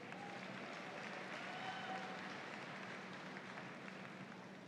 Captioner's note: audience applauds